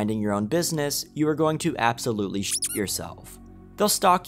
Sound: squeaks

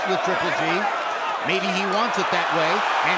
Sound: cheers and applause

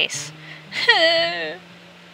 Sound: sobs

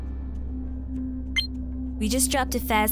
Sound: beeping

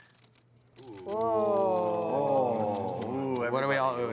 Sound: moaning

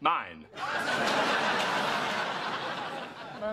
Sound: laughter

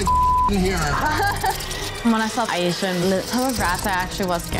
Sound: laughing

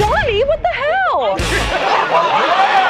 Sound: laughter

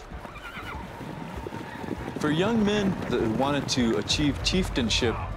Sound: horse neighs

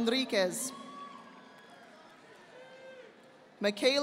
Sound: audience applauding

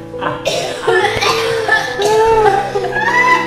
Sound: fake laughter intensifies

